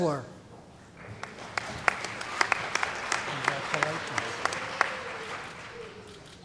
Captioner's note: applause